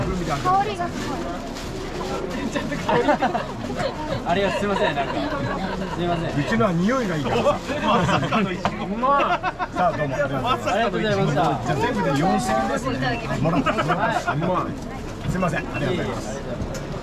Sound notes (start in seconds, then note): 2.6 laughs; 10.1 laughs